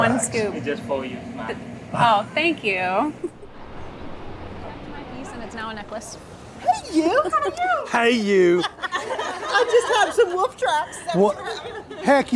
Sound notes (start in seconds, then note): 8.2 laughing